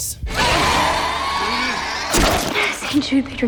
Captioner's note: roars